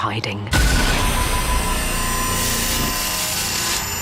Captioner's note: electronic distortion